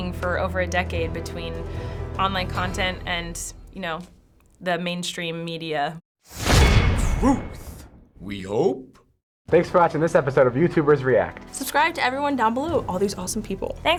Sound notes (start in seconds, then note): 6.4 clang!